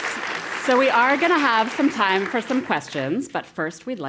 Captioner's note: applause